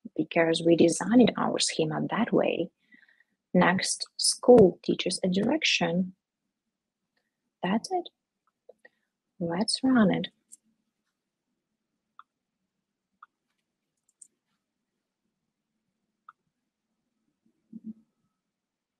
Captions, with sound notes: because we designed our schema that way. Next, 'school TEACH_A_DIRECTION'. That's it. Let's run it. (keyboard and mouse clicks)